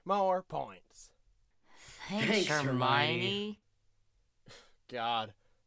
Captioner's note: sarcastically